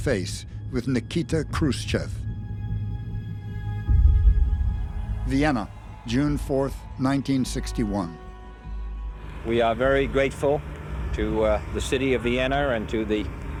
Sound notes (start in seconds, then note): 2.1 tense music playing; 5.2 crowd cheering